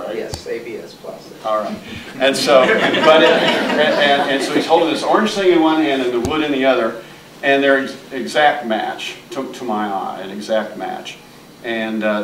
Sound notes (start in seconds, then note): 3.5 audience laughing